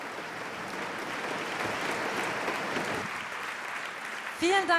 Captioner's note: applause